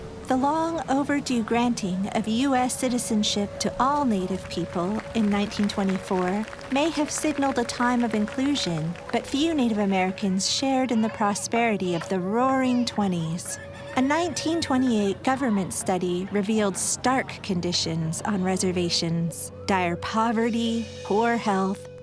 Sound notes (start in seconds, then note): 3.9 distant applause; 13.0 rooster crows